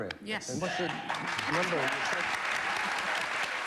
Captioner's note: applause